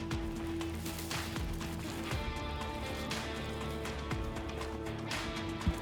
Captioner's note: brush crunching; intense music continues